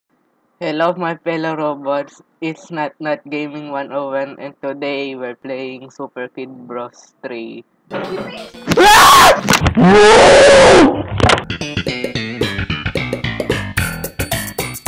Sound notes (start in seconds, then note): 9.7 intense Screaming; 9.7 scream